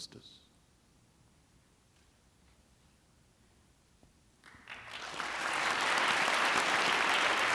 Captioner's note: applause